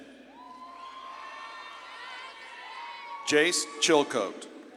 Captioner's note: audience claps and cheers